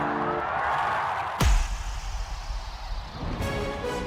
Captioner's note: cheers and Applause